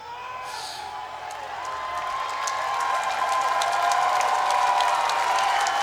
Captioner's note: crowd cheers and claps